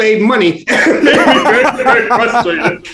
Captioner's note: both laughing